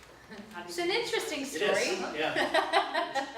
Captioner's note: laughs